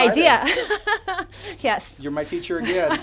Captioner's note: both laugh